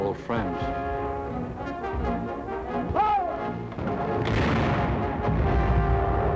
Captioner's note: dramatic music; booming